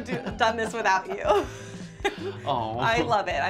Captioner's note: both laugh